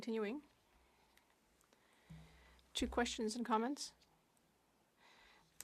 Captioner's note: speaking French